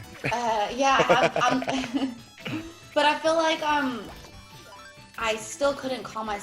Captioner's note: laugh